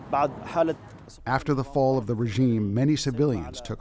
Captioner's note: through translator